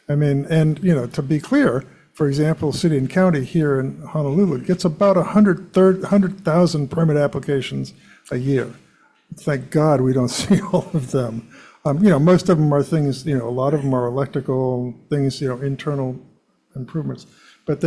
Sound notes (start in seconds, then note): 10.2 chuckles